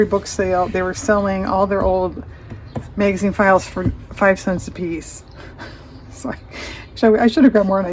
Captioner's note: laughs